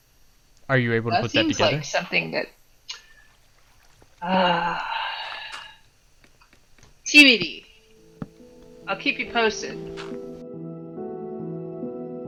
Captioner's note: stompy